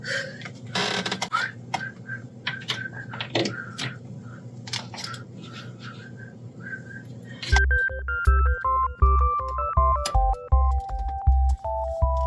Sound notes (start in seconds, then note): 4.3 whistles “ ”